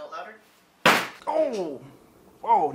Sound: loud bang from slamming banana

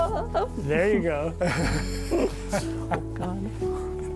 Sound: laughter

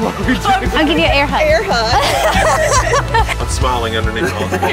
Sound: laughs

